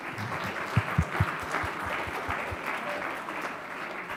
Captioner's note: audience applauding